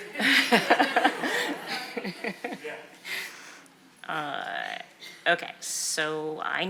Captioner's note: attendees laugh; laughs